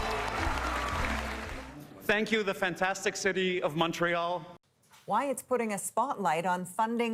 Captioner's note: applause